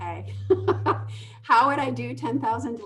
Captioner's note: laughing